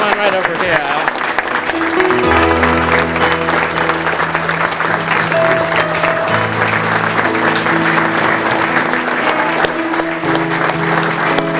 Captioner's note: 14 seconds of clapping